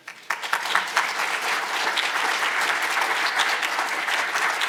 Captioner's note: audience applauding